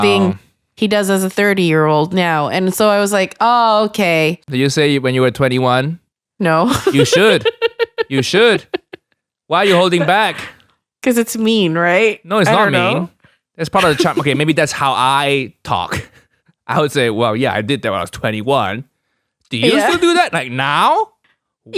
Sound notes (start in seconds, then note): 6.7 laughs